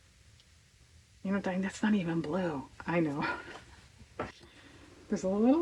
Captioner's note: laughs